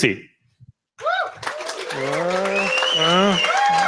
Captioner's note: applause and cheers